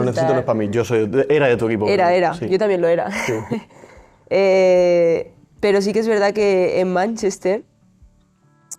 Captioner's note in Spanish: risas